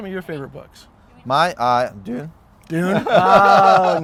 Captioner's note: güler